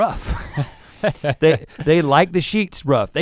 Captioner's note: both chuckle